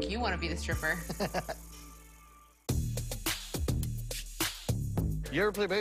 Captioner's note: lorenzo laughs